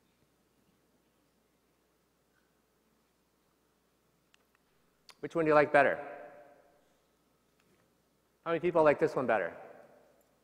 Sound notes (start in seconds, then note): none